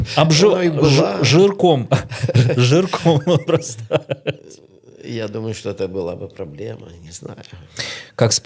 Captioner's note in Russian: смех